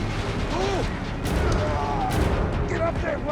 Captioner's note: Captain Malone groaning